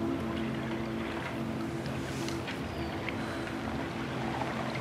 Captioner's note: water purling